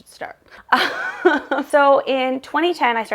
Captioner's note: laughing